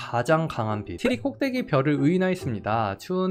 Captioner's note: voiceover